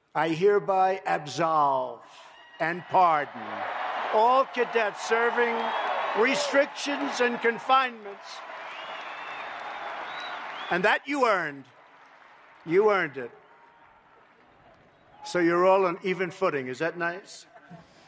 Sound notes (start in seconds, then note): 8.9 applause; 17.8 laughter